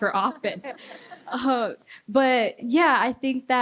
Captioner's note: laughter